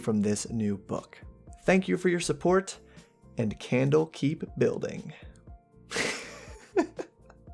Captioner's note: laughs at his terrible pun